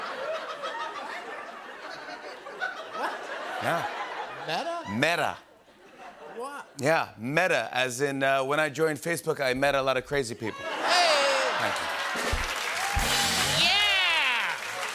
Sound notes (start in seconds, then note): 10.7 laughter and applause; 12.9 rimshot